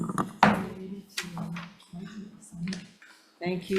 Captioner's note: faintly speaking; mallet thudding